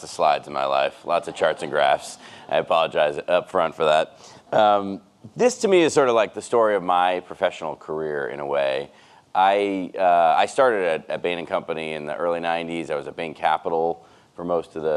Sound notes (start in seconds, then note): 4.0 audience laughs